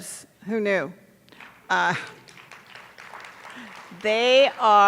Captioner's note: attendees applauding